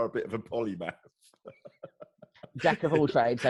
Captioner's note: laughs